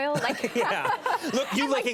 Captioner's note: Conan and Mandy laughing